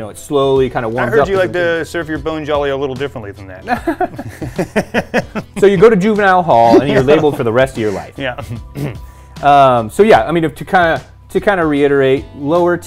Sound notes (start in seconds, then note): 3.6 both laugh